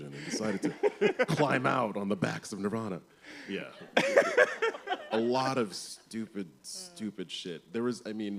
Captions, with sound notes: and decided to climb out on the backs of Nirvana." -[laughs] -Yes, a lot of stupid, stupid shit.